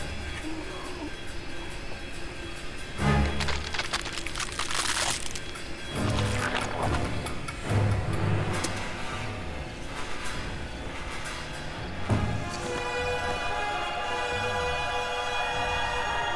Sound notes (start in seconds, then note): 3.0 bones crackling; 3.0 flesh squelching; 7.5 soft tense orchestral music